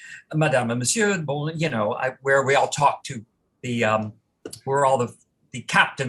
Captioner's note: non-english